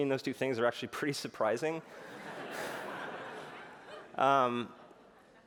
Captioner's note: laughter